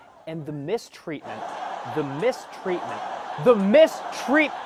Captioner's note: laugh track